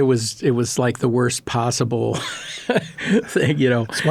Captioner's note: laughing